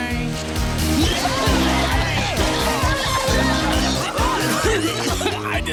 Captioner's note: coughing